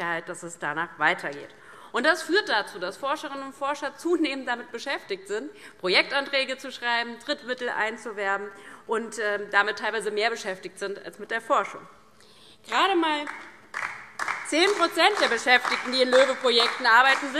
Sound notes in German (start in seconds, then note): 13.2 Beifall DIE LINKE